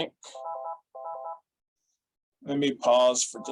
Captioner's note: phone ringing